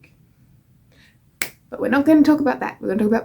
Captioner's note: snaps fingers